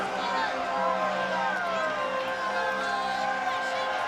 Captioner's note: crowd chatter